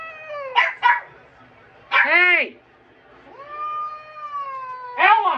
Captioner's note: meows in discomfort; Ella barks; slurred